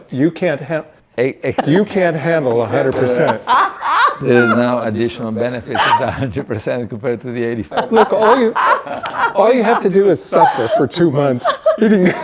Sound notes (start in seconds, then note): 1.6 laughing; 7.7 laughing